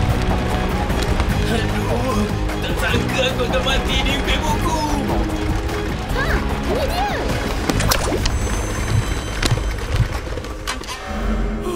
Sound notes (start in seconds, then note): 7.4 rumbling slows to a stop